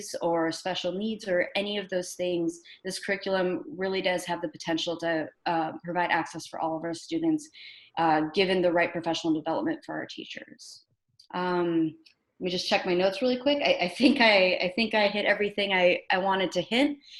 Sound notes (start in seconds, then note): none